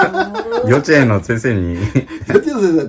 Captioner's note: laughs